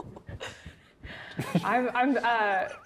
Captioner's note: players laughing